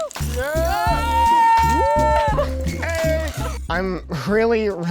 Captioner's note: cheering